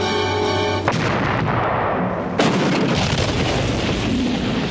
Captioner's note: explosion booms